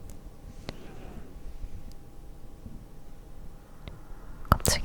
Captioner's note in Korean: 보일러 소리